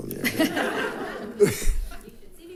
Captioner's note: audience laughs